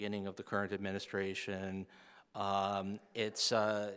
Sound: none

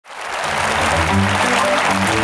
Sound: applause

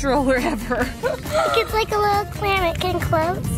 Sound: mom laughing

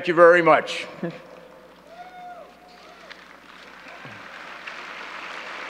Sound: audience clapping

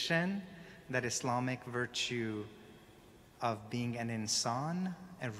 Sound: speaking in foreign language

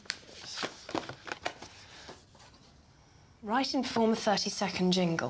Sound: envelope rustling

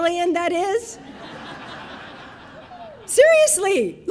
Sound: audience laughing

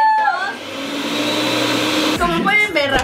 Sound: blender sounds

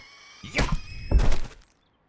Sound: bodies hit the floor

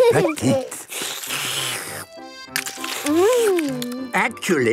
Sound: slurping

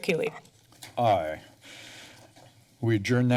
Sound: pause

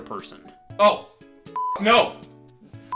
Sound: beep

